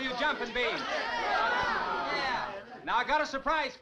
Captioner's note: crowd groaning